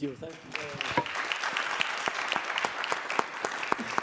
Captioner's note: applause